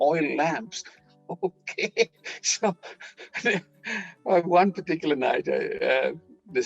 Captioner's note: laughing